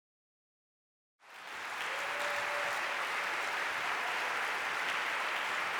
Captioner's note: applause